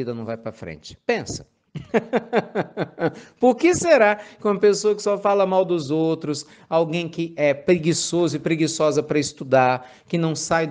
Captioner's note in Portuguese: risos